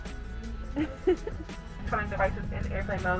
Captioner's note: chuckling